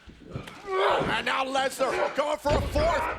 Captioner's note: Brock grunts